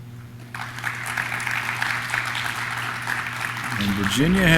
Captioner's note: audience claps